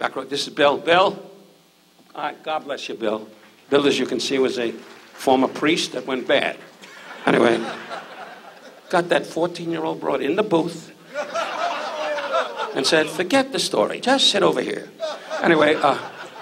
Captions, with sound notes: Back row, this is Bill, Bill. All right, God bless you, Bill. Bill, as you can see, was a former priest that went bad. Anyway. (audience laughs) Got that 14-year-old broad in the booth. (audience laughs) And said, "Forget the story, just sit over here." Anyway.